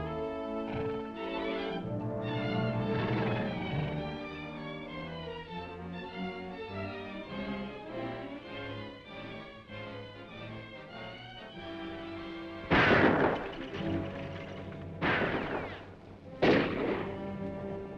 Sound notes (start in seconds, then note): 12.6 guns firing; 14.7 dramatic music